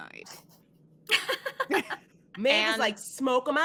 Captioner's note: all laughing